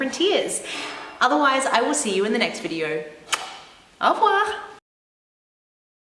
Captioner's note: kiss